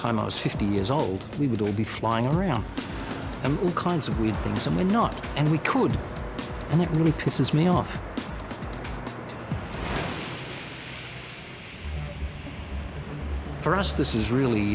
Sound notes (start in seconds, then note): 8.4 airboard whirring; 8.4 upbeat music